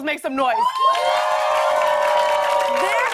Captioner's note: cheers and applause